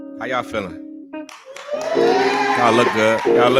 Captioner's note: cheering